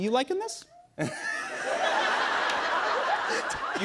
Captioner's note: laughs